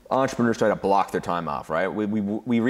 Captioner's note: none